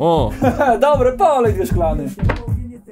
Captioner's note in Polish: Śmiech